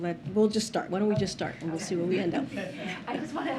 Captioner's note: laughter